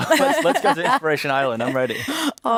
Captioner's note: laughter